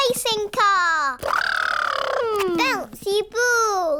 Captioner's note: imitates engine revving